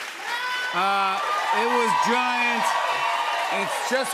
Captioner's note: cheers and applause